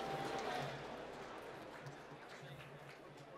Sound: applause

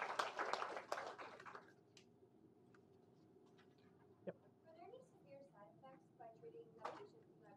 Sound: applause

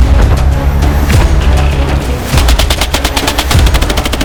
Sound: dynamic music playing; sound of machine gun fire

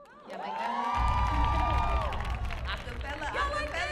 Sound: audience cheering

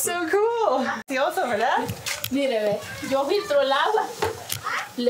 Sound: speaking foreign language

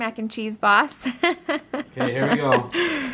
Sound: laughs

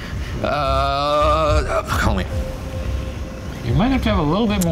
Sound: groans

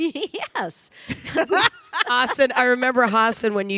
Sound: Michelle laughing

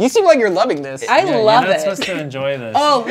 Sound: laughs

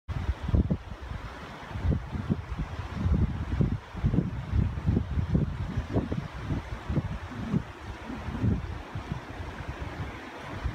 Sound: wind and running river water

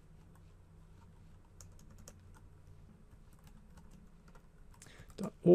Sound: typing

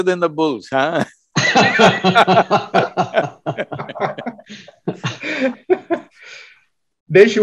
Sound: laughter

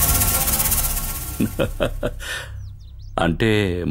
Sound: laughs

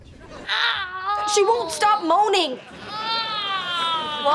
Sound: groaning; moaning

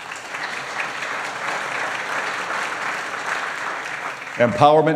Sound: applause

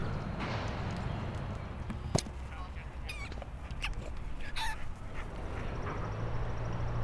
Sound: squeaking dog toy

